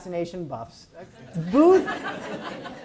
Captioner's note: audience laughs